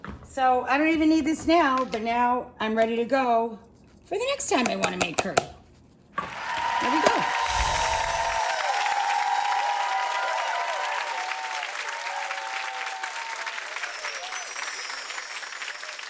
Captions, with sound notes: So I don't even need this now, but now I'm ready to go for the next time I wanna make curry. (audience cheers) There we go. (bells chime) (audience applauds)